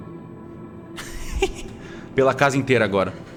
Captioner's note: giggles